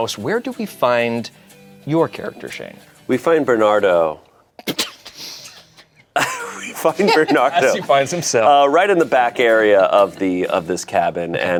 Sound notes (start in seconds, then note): 6.1 laughs; 6.1 group laughs